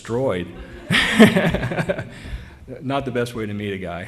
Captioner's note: laughter